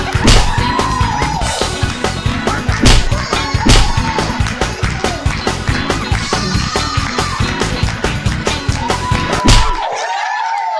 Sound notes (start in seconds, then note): 0.1 slap; 3.6 slap; 9.4 slap